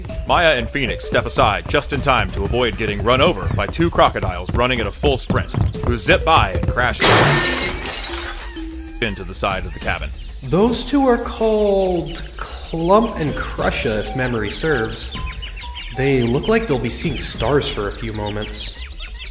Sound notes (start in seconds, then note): 7.0 loud crash